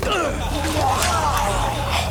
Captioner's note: crowd; man retches